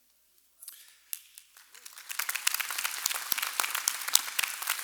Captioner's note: applause